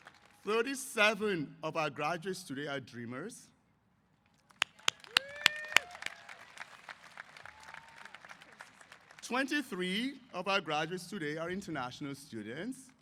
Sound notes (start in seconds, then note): 4.5 applause & Cheers